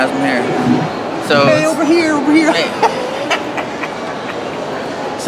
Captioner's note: laughs